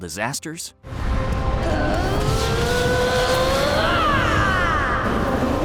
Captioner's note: grunting, screaming